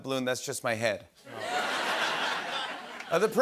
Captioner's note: laughter